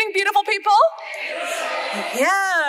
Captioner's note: audience responds